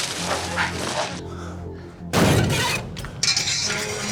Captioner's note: rustling and shrieking; scraping; crash